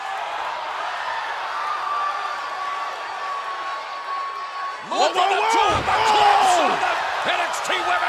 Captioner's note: cheers and applause